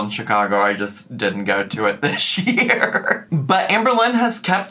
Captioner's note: laughs